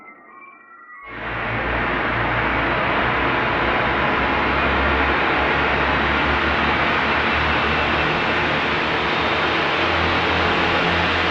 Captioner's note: sounds of an electric saw